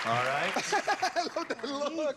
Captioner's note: laughter